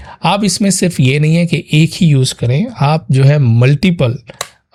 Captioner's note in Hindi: नाक से की जाने वाली आवाज़